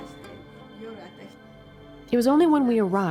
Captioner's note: speaking in foreign language